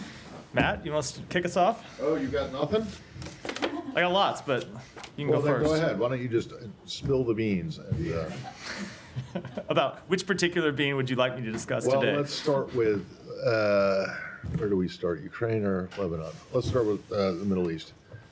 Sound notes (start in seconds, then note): 8.2 laughter